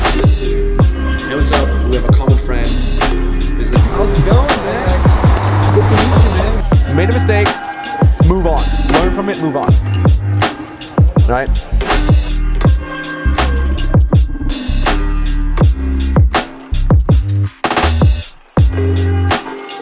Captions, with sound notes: (chatters) Make a mistake, move on. Learn from it, move on. All right? (upbeat music)